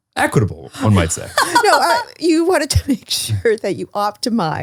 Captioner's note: laughs